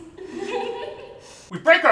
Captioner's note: group giggling